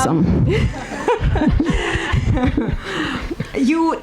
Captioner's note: audience and hosts laughing